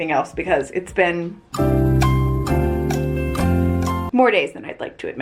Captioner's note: clock ticking